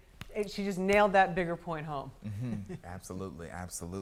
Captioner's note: laughs